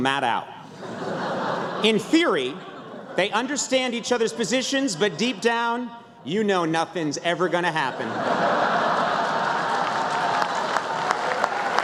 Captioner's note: laughter